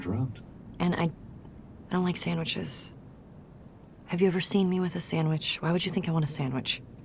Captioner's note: Jughead voice